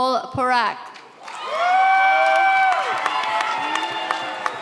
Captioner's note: audience cheers